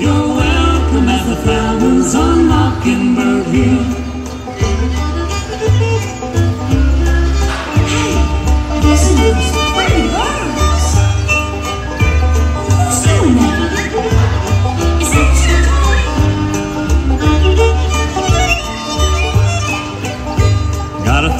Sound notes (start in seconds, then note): 4.7 violin and bird tweeting; 7.9 speaking; 21.2 singing